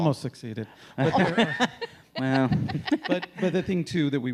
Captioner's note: everyone laughing